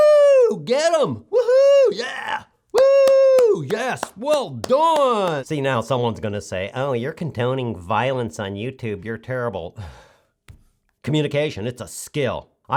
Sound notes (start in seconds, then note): 0.1 cheering; 9.8 sighs